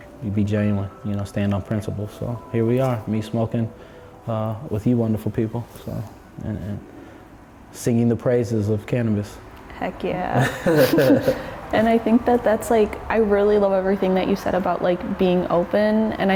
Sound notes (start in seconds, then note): 10.4 laughing